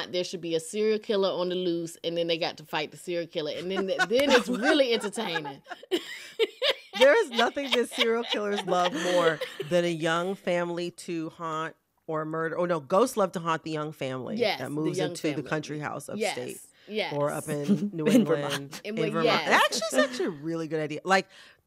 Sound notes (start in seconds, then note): 3.6 laughter